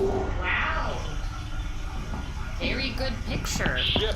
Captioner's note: over the sound of water running